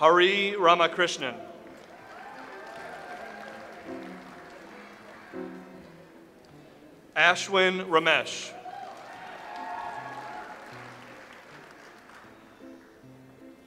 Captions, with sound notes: Hari Ramakrishnan. (audience applauds) Ashwin Ramesh. (audience applauds)